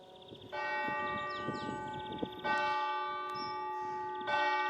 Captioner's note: church bells ring